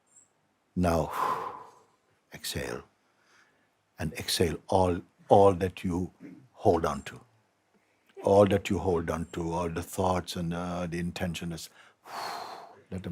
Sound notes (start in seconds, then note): 1.0 kilélegzik; 11.7 kilélegzik